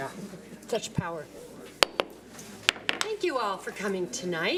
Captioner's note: gavel bangs